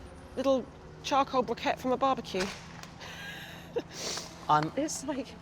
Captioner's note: chuckles